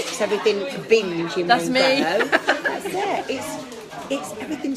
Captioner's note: laughing